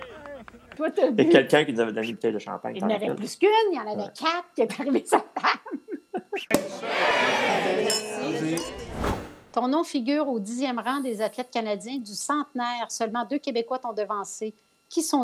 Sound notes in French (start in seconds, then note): 6.5 pop!